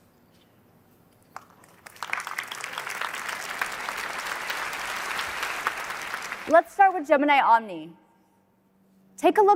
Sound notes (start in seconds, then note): 1.3 applause